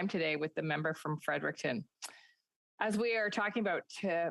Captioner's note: speaking Indigenous Language